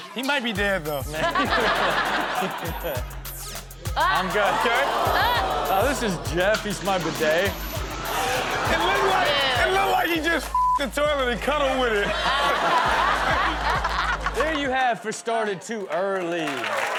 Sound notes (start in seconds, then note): 0.8 all laughing; 2.8 upbeat music; 8.3 all laughing; 11.2 all laughing; 16.7 audience cheering and clapping